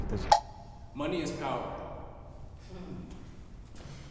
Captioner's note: offscreen voice